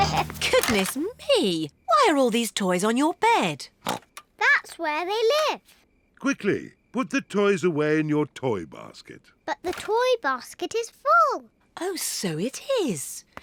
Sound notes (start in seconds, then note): 3.7 snorts